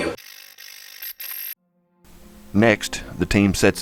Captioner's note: static fizzing